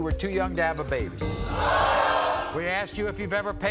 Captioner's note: audience oohs